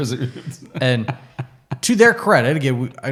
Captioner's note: laughing